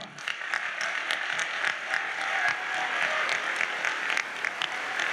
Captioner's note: audience applauds